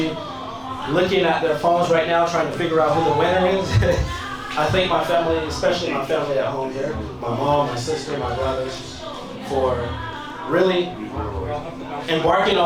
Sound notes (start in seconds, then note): 3.1 laughs